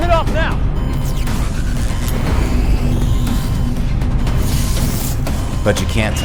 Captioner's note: system whirring and sparking